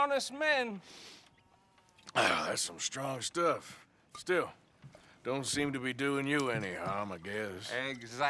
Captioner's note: drinks